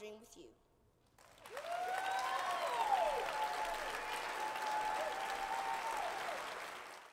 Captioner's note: cheers and Applause